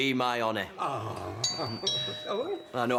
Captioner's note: doorbell